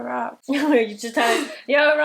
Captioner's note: laughing